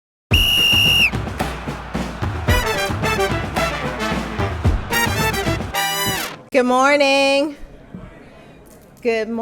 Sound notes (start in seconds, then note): 0.3 whistle blaring; 0.3 upbeat music